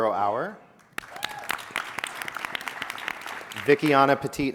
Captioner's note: audience applauding and cheering